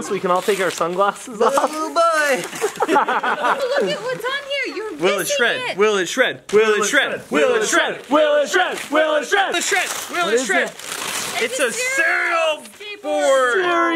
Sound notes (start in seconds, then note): 2.3 laughter; 6.6 everyone Chants